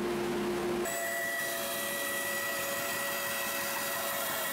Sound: saw buzzing

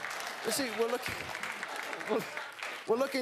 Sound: applause

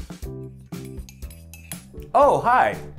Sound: spoon clinks

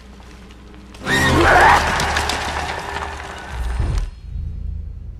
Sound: creature screams

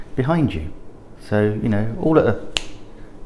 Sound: snap

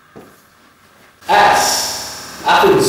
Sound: fuzzy audio

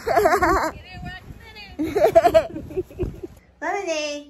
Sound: laughing; laughing

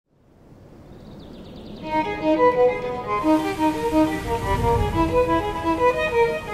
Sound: birds chirping; classical music

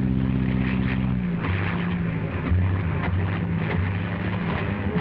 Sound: plane engine sputtering

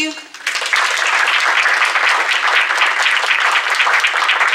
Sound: applause

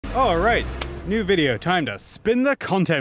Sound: clap

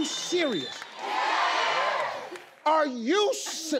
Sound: crowd

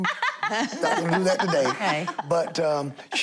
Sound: laughing

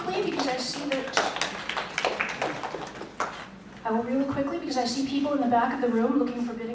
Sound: applause

